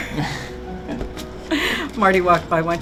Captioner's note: laughs